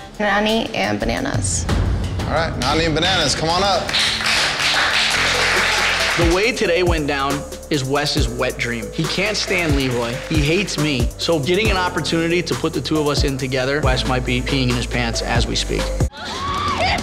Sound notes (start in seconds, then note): 3.4 audience applauding